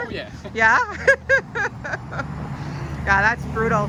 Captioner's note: laughs loudly